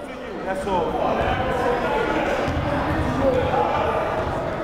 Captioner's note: chattering